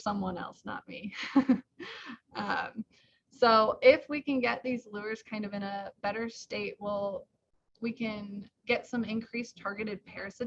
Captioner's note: chuckles